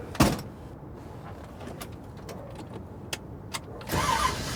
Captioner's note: door clatters